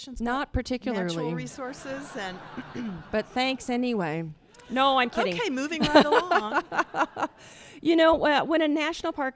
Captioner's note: laughter